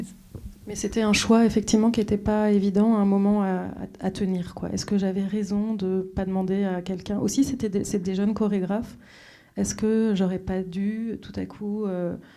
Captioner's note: speaking French